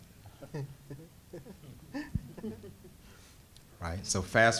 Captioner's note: panel chuckling